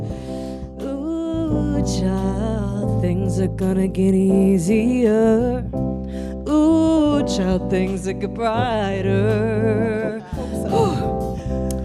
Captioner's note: breathes